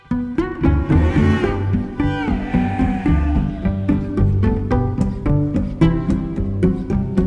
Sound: pizzicato string music; sheep bleating

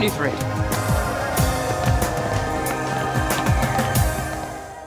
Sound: wolf howls continue; running footsteps; wolf howls continue

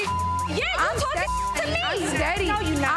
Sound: beep

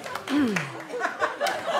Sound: audience laughter; clears throat

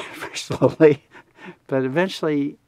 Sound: laughs

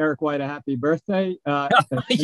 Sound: laughs

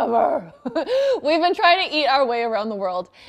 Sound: chuckles

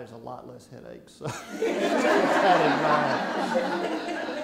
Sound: laughing

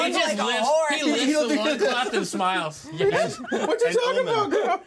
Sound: laughs

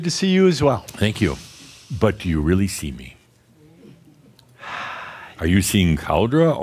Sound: sighs

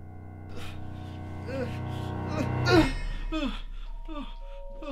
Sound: moaning in sleep

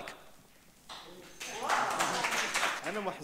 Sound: audience clapping; speaks in foreign language

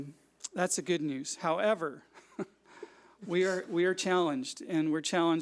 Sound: chuckles

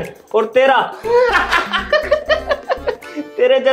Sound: laughing

